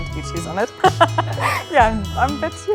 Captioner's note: laughing